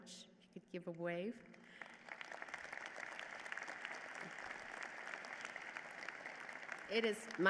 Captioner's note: applause